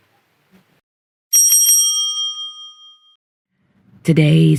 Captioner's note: bell rings